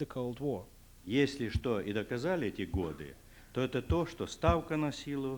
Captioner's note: non-english speech